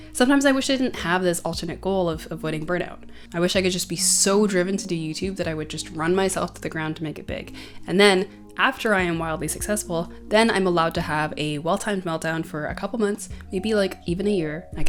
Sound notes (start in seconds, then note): none